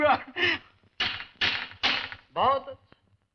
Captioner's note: door knocking